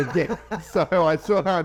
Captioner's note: laughing